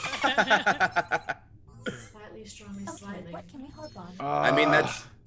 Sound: laugh

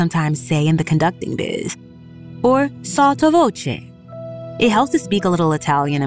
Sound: sfx in - spacecraft effects - cockpit beeps

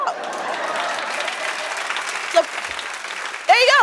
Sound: applause

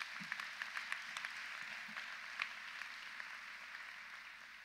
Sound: audience applauds

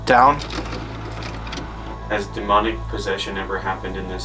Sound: tape fast-forwarding

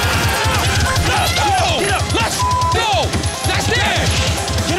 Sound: beep

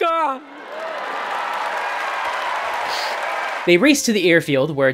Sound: cheering

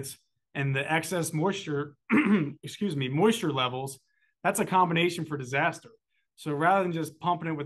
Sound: cough

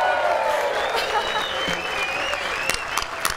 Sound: applause

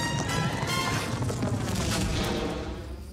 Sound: thud echoing

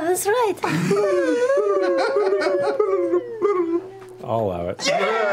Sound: flashback tongue warbles; group cheer

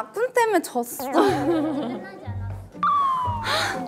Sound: trudging

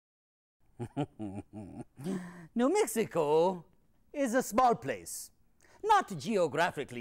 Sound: laughs

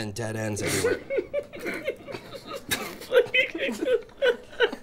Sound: laughing

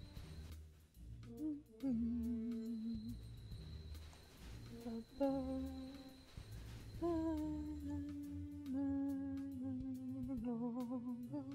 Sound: humming to background music

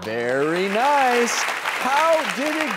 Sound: audience applause

